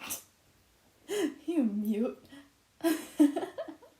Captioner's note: laughs